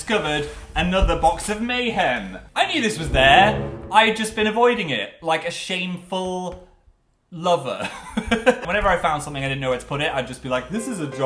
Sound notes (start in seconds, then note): 7.5 laughs